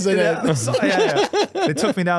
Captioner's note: laughing